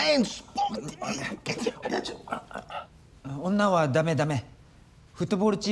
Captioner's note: speaking in foreign language